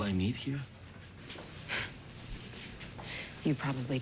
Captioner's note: scoffs